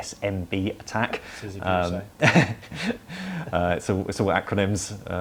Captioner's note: laughter